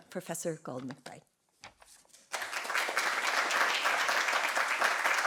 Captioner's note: applause